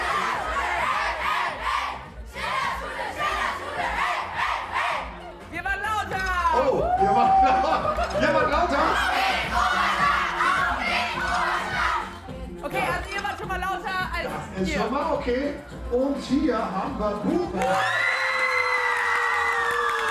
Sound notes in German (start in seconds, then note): 8.5 Sprechchöre; 17.5 Jubel